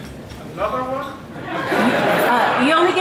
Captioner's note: audience laughs